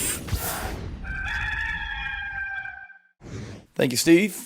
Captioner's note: rooster crows